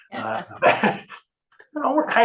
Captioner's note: chuckles